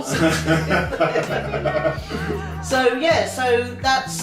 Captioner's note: laughing